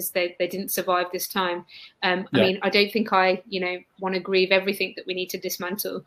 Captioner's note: erm